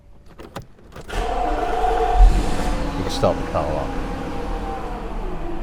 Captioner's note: engine starts